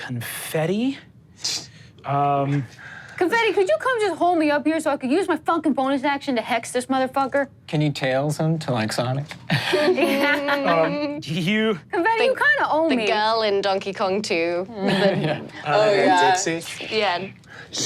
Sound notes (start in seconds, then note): 9.6 laughs